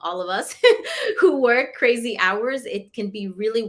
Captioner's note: laughter